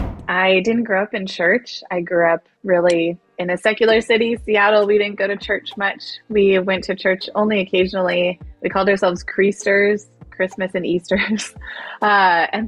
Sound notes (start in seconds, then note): 10.9 chuckles